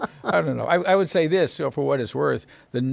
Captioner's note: laughs